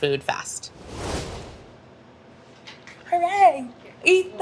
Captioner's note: swoosh